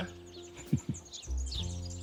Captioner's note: laughs